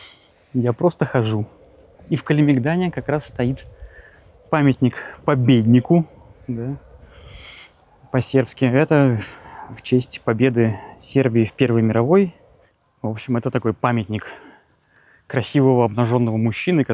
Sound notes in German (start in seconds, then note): 6.0 auf Serbisch